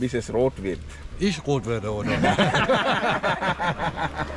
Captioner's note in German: Gelächter